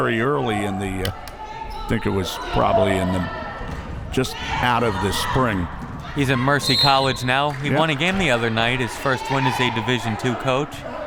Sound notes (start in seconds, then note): 6.6 whistle